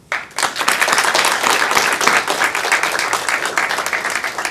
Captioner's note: audience applauding